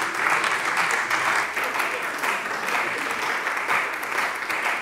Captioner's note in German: Beifall bei der CDU